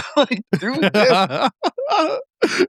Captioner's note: laughing